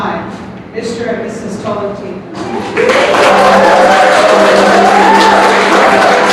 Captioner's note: clapping